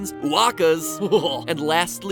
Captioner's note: disgusted noise